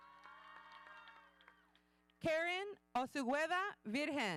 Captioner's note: audience cheering